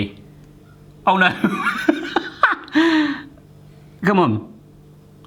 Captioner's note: laughing